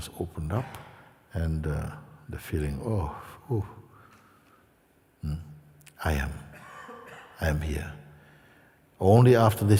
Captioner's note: exhala